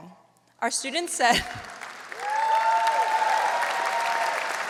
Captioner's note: audience applauds